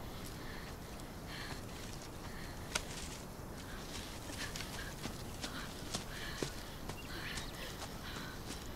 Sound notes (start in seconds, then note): 4.2 panting